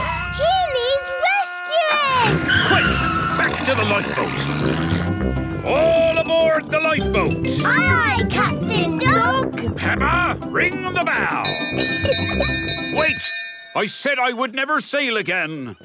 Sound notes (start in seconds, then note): 11.4 bell chimes